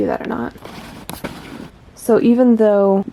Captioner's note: camera lens zooming